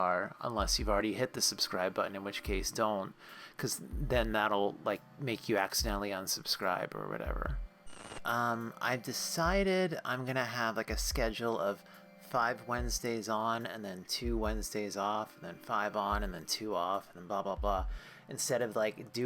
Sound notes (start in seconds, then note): 6.5 static